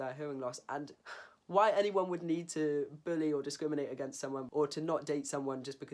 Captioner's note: sigh